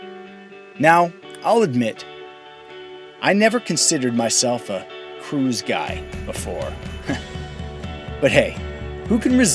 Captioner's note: chuckle